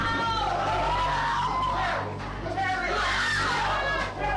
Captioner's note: shouting